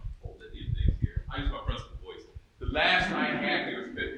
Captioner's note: speaking faintly